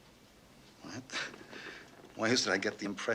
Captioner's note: chuckles